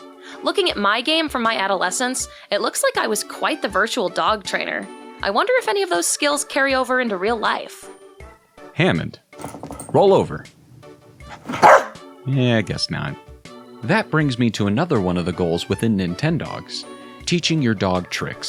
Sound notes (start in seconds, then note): 11.2 barks